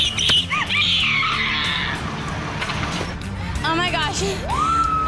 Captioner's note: screams